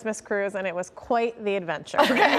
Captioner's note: laughter